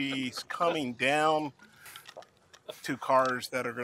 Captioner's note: laughter